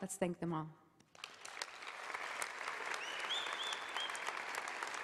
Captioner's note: applause